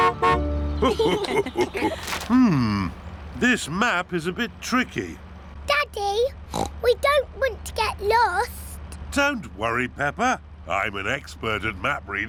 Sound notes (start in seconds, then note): 0.8 laughter; 6.5 oinks